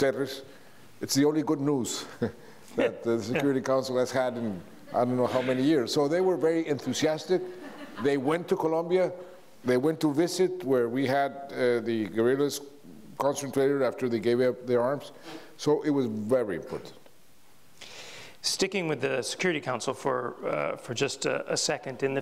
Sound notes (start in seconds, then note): 2.1 Juan and Jeffrey chuckle; 7.5 audience laughs